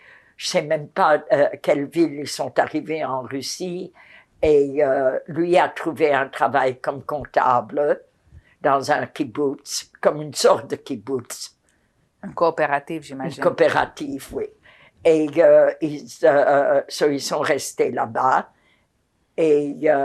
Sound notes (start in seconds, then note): none